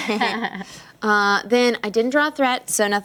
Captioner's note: laughter